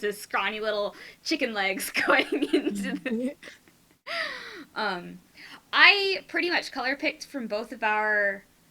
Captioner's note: trails off into giggles